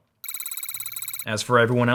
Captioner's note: electronic beep